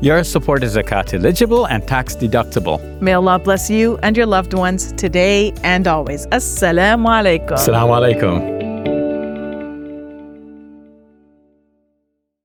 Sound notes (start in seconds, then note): 6.4 speaks in Arabic; 8.4 upbeat music